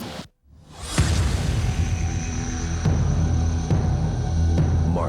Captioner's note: slamming